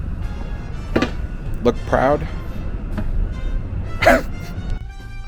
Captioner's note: both laugh at the absurdity